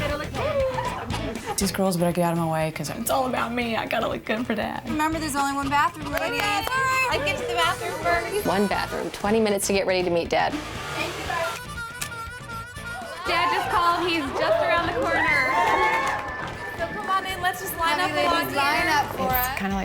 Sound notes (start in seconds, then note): 10.8 upbeat harmonica music; 15.8 women cheering